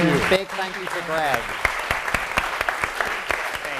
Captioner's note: applause